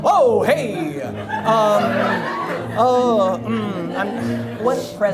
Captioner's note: audience laughs